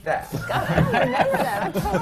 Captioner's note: laughter